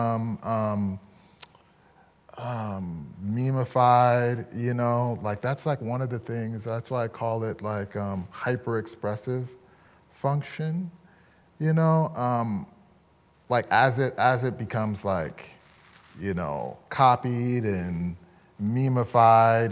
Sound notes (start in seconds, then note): none